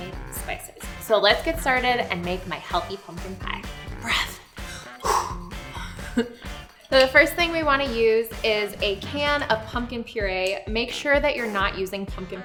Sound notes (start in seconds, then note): 4.6 breath